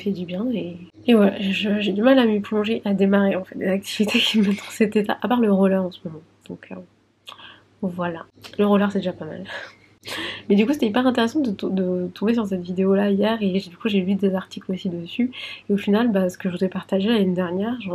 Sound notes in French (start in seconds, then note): 9.5 rires